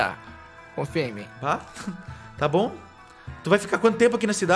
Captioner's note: giggles